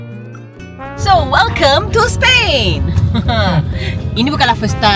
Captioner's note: laugh